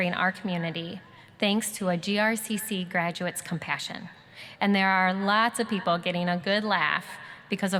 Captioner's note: none